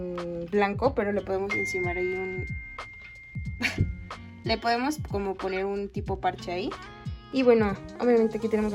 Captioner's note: cellphone ring